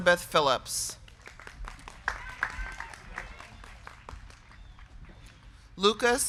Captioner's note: crowd clapping; crowd cheering